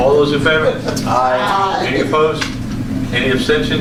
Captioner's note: A chorus of ayes